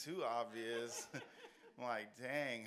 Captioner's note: audience laughs